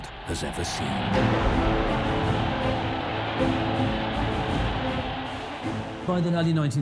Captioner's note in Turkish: kalabalık tezahürat